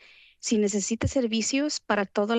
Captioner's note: foreign language